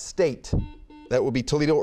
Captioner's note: buzzer beeping